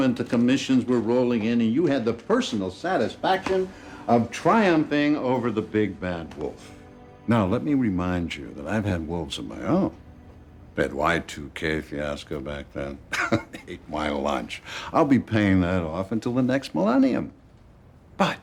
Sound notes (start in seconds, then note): 13.0 chuckling